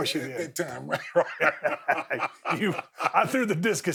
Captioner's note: both chuckling